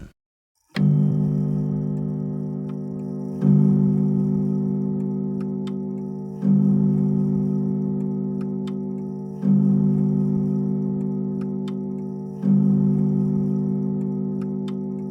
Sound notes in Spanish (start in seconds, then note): 0.8 Las campanas de un reloj suenan al dar la medianoche